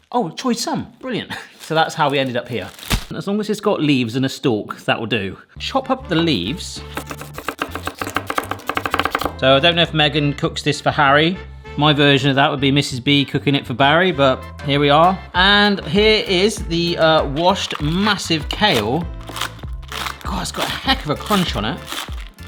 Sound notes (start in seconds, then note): 6.6 upbeat music; 6.8 knife chopping; 17.5 kale crunching